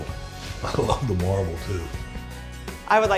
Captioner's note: laughing